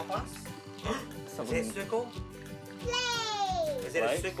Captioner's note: gasps